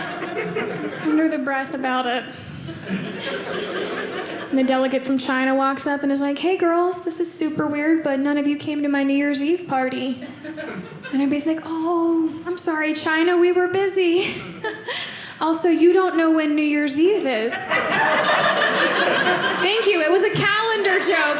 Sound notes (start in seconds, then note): 17.5 audience laughing